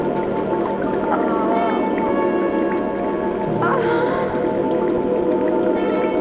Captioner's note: moaning